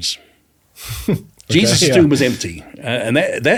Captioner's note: laughs